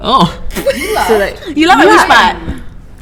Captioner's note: laughs